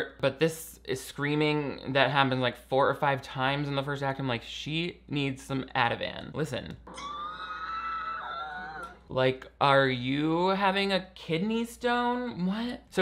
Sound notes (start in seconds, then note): 6.9 Bella screaming